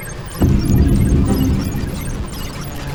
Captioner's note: sound of typing and messages